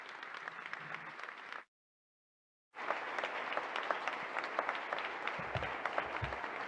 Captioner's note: audience applauding